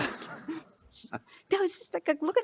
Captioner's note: chortle